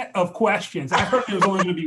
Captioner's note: laughs